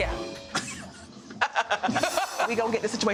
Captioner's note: women laughing